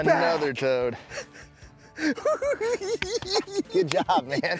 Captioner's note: cackling